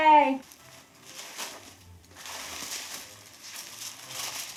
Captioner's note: tissue paper rustling